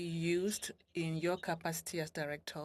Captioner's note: speaking French